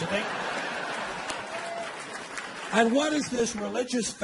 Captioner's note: audience applauding